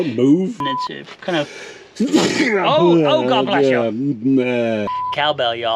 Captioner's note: sneezing